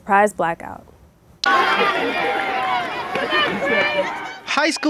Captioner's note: crowd noise